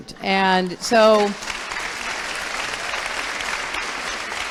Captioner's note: applause